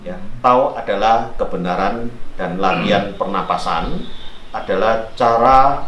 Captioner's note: breathing exercise